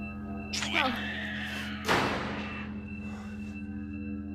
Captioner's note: door slams